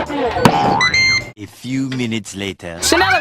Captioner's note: air fryer beeps